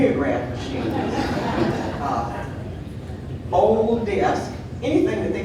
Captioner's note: audience laughing